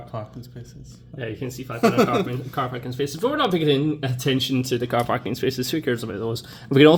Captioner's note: laughs